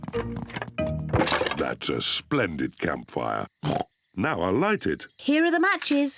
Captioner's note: oinks